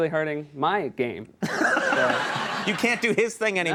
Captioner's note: audience laughs